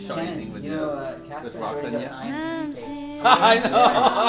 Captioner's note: all chattering; laughing